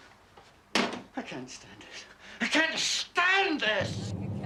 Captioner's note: shouts